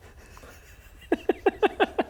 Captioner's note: excited giggles